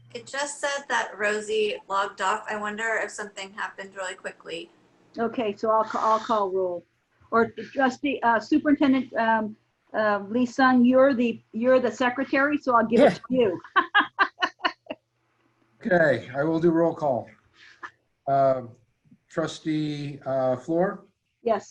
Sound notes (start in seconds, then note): 12.9 laughing